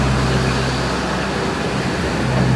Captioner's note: none